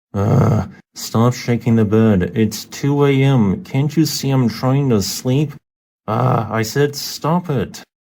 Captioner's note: ugh